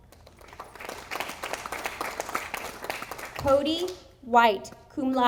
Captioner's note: audience applauding